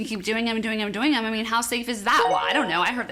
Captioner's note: chime tinkling